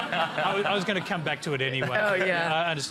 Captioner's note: laughter